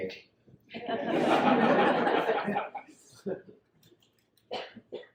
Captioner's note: audience laughs